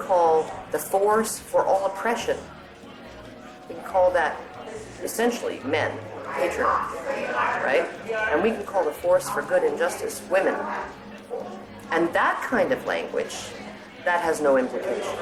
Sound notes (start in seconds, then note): 6.1 chatter continues